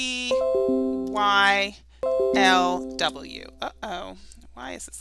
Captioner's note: dinging